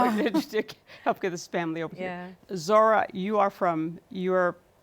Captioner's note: laughs